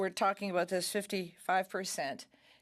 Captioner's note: speaking French